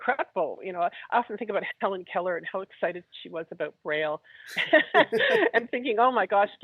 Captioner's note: laughs